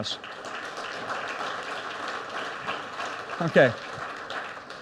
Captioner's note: audience applauds